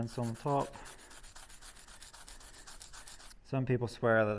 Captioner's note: pencil rubbing